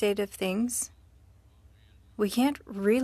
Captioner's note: speaking french